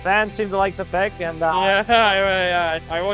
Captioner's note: laughs